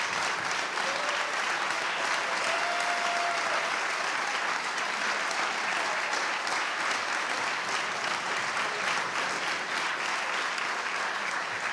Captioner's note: applause